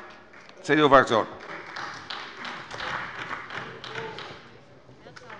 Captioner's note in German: Beifall bei der CDU